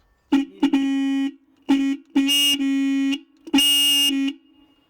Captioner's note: horn blowing